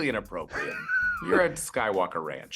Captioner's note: laughs